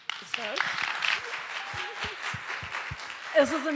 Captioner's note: applause